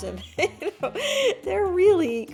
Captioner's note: laughs